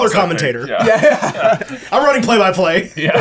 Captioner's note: laughing